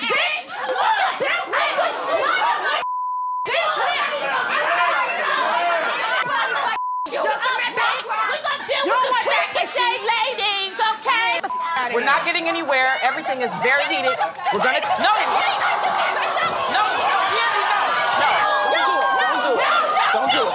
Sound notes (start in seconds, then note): 1.3 all shouting; 11.4 beep; 15.5 all shouting; 20.3 crowd screaming